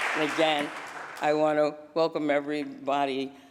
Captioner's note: applause